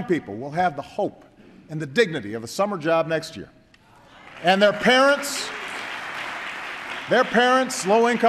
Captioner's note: applause